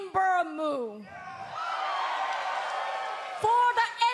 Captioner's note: cheers and applause